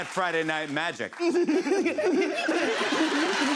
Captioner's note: squirrelly laughter; laughter, cheers, applause